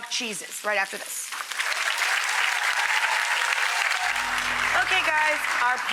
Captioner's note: audience applauds